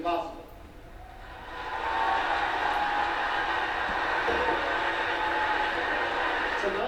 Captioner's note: audience screams and applauds loudly